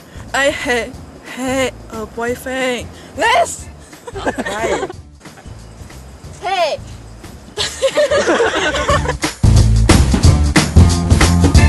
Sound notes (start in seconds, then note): 3.9 laugh; 7.6 everyone laughing